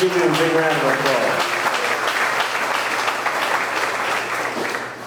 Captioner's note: audience clapping